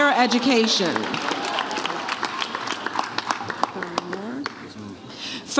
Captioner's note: audience cheers